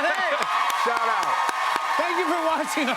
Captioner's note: cheers and applause